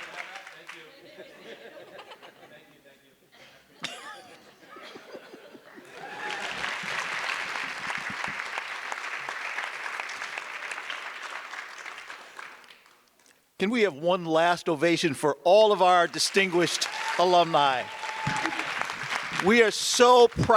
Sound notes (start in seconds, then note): 0.6 audience laughs; 5.8 audience applause; 18.4 audience applause